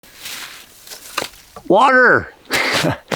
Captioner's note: ice crushing; laughing